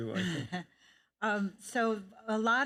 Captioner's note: chuckles